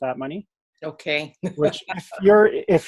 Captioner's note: chuckles